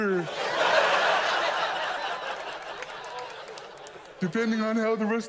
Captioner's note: audience laughs